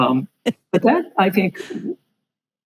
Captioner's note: laughing